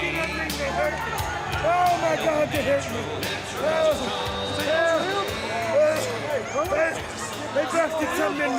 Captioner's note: crowd chatter